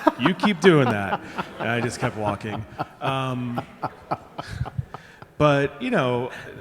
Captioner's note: laughing